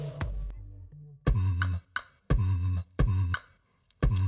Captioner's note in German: Beatboxing